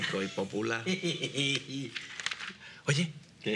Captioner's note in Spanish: risas